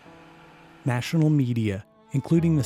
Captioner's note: voiceover